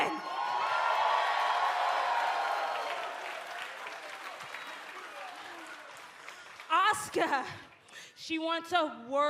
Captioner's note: cheers and applause